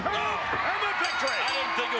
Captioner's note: bell ringing